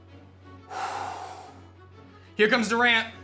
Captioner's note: sighs